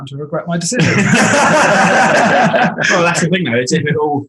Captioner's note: group laughing